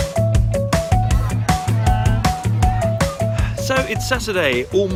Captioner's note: children yelling